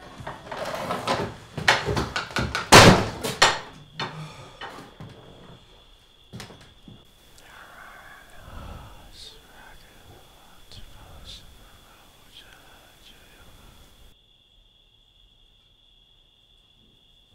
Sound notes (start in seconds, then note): 0.2 door opens roughly; 4.3 night chirps; 7.2 whispers